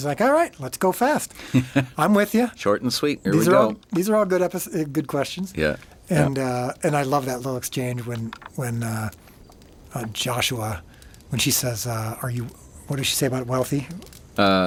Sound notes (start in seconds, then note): 1.3 laughs